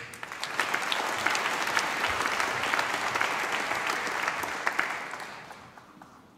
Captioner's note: applause